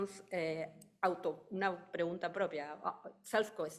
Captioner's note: speaking in foreign language